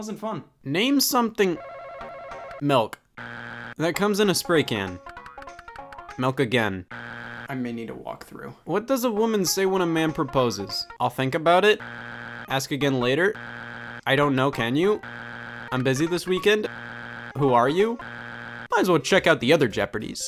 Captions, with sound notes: It wasn't fun. Name something (bell ringing) milk (buzzer beeps) That comes in a spray can. Milk again. (buzzer beeps) I may need to walk through. What does a woman say when a man proposes? I'll think about it. (buzzer beeps). Ask again later. (buzzer beeps) I don't know can you. (buzzer beeps) I'm busy this weekend. (buzzer beeps) Who are you? (buzzer beeps) Might as well check out the other "Jeopardy!"